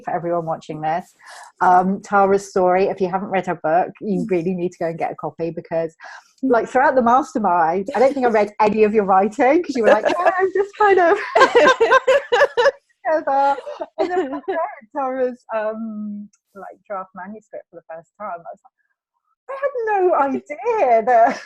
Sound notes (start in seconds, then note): 12.3 laughing